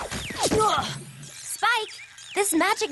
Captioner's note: tweet!